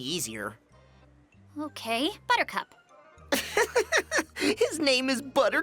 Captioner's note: chuckles